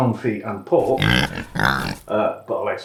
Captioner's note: oink oink